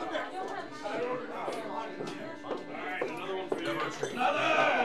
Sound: footsteps tapping; gentle music

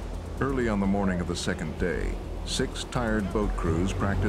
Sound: voiceover

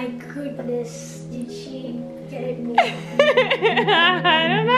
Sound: laughing

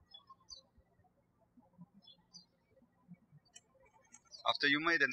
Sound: birds chirping

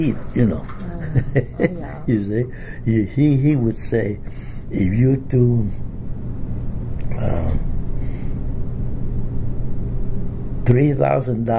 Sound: laughs

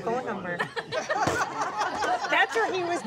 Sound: all laugh

